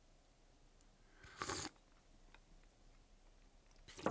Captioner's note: slurps